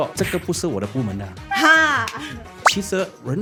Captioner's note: laughs